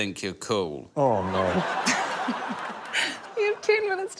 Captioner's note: laughter